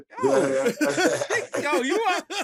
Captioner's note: laughter